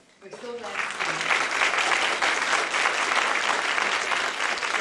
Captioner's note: applause